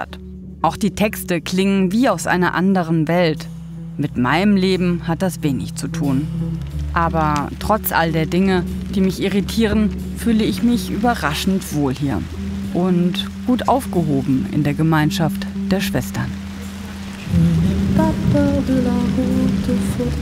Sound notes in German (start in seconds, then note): 16.4 Regen prasselt; 18.4 Nachdenkliche Musik